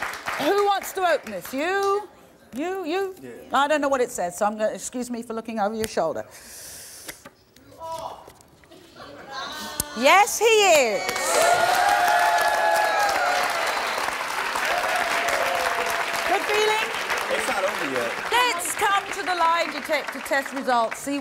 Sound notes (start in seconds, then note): 7.9 audience member exclaims; 11.4 audience applauding